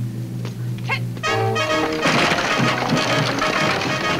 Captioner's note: woman shouts; wagon rattles; exciting music